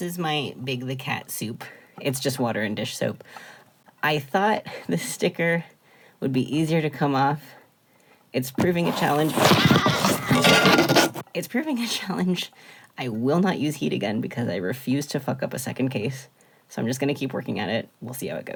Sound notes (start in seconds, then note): 11.1 yelling and scraping noises